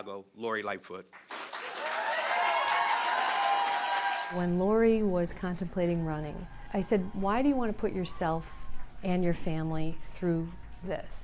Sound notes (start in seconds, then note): 4.2 applause; 4.5 cheering